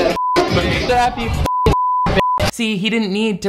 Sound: beep

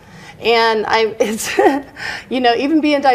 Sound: chuckles

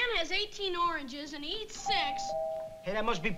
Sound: doorbell rings

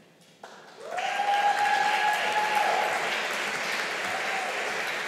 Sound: audience applauding

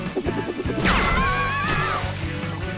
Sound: screaming

